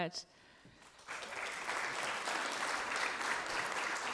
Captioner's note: applause